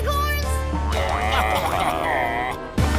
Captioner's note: baaing